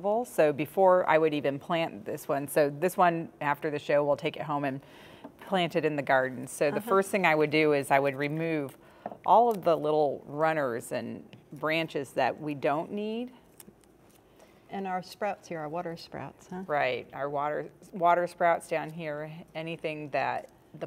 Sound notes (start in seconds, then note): 13.0 shears clicking